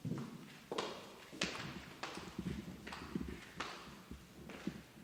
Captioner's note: footsteps echoing